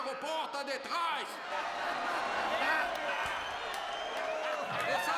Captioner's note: crowd cheering and laughing